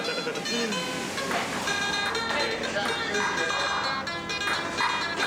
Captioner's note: ping-pong bouncing